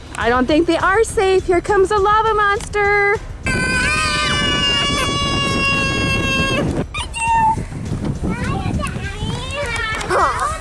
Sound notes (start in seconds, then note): 3.4 children shouting; 6.9 children playing